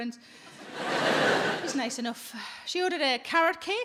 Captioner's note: audience laughs